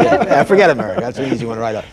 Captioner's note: laughter